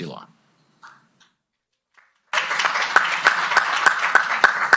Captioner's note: applause